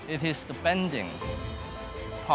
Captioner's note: none